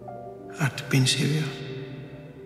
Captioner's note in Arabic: صوت آدم الداخلي